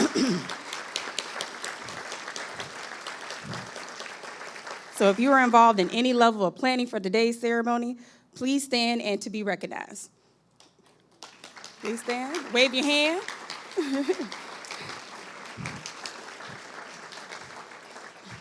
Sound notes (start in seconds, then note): 0.0 audience applauding; 1.5 clears throat; 3.6 audience applauding; 11.1 audience applauding; 17.0 chuckles